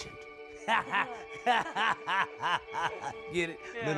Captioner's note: both laughing